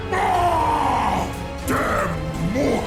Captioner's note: Kronos yells